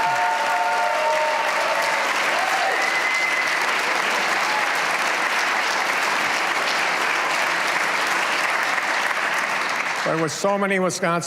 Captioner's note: cheers and applause